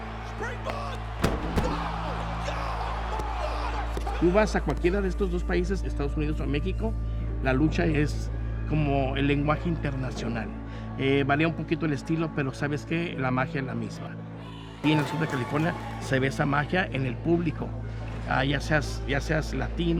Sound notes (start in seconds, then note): 0.0 cheering; 4.4 speaking Spanish